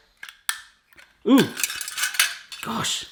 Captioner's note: cutter clicks; cutter clatters